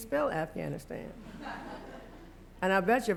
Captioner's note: laughter